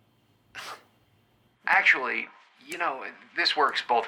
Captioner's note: scoffs